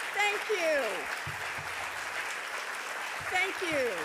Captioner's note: audience applauding